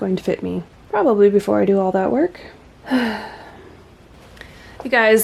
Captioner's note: sigh